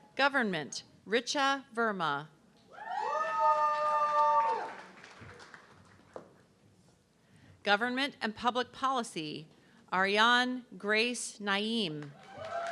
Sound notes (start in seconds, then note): 2.8 audience cheering; 12.0 audience clapping